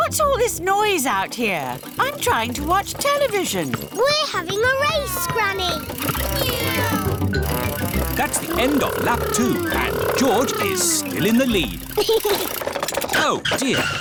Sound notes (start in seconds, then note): 6.5 kids imitating vehicle sounds; 12.4 chuckles